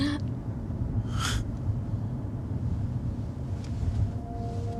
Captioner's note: Zach sighs; hopeful music